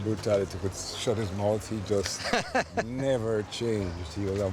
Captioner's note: laughter